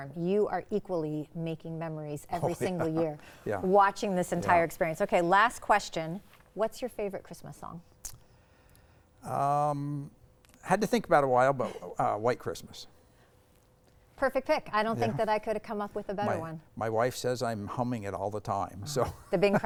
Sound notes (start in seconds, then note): 2.4 chuckles; 18.8 laughing